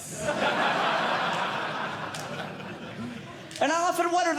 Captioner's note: audience Laughing